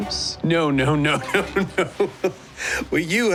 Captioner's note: laughs